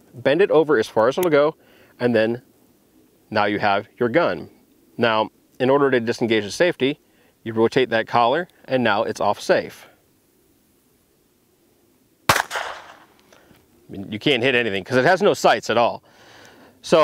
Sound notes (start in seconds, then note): 12.2 gun fires